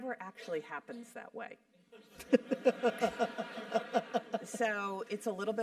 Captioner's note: laugh